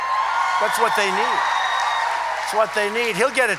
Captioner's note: applause